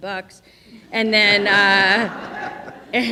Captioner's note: audience laughing